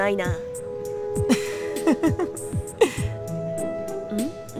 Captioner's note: chuckle